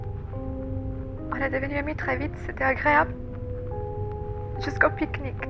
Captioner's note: Giulia, voice trembling, recording